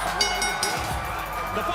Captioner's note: cheers and applause; bell ringing